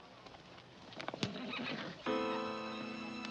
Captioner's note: Danny whinnying; tense pensive music